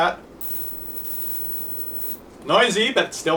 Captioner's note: high pitched hissing